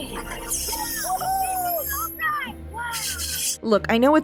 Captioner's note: kids cheering and laughing